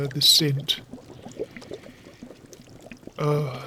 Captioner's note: Snape breathes in deeply